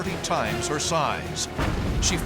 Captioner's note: explosion